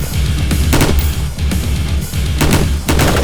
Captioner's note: loud hissing; bang